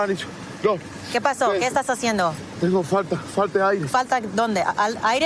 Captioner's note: speaking spanish